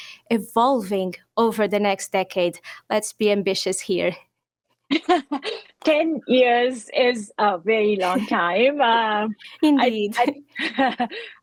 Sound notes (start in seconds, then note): 8.0 laughs